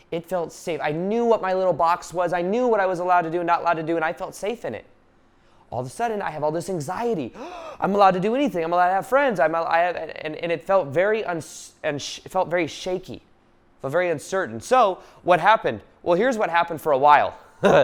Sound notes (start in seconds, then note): 7.3 gasping loudly